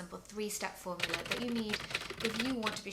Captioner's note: keyboard clattering